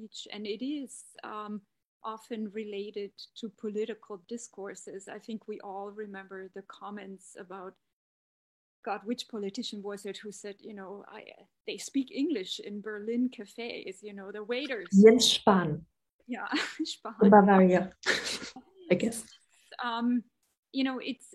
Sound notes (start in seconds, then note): 15.3 speaking german; 17.1 speaking german